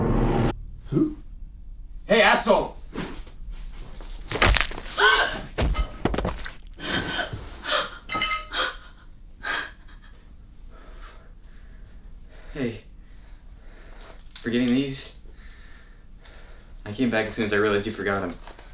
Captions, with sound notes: Who? Hey asshole! [skull cracks] Hey... forgetting these? I came back as soon as I realized you forgot them